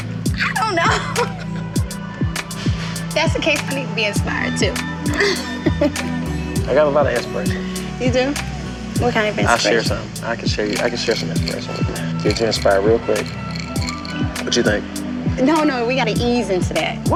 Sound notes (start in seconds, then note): 0.4 laughing; 5.1 laughing